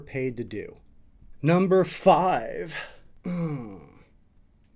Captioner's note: grunts